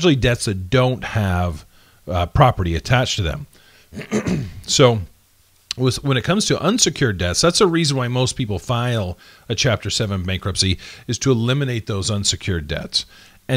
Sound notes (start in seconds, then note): 3.9 clearing throat